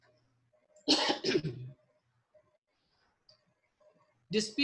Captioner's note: coughs